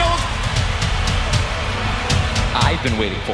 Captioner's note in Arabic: تشجيع الجمهور